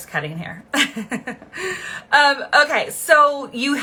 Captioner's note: chuckling